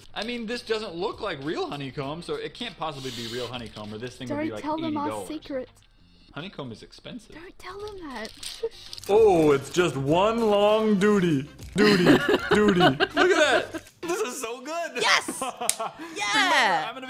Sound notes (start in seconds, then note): 11.8 laughing